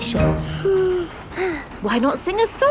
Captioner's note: both sigh